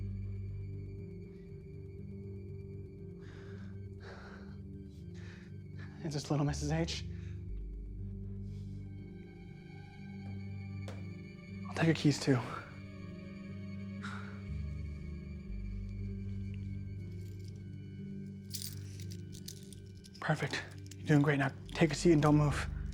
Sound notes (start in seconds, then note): 0.2 brooding music continues; 18.4 keys jingling